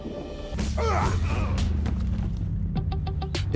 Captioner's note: men grunting